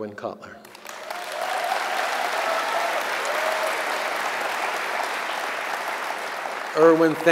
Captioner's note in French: Applaudissements